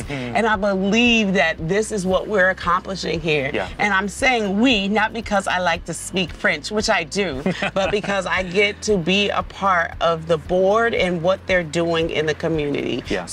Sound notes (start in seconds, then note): 7.4 laughs